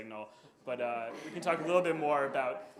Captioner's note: audience chuckles